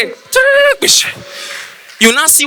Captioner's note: making Sound Effects